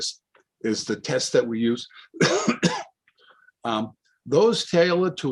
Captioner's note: coughs